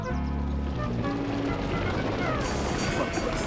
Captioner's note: sheep stampeding